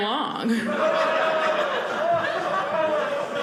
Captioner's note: audience laughing